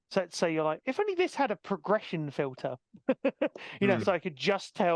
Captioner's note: laughing